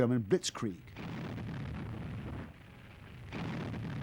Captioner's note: explosions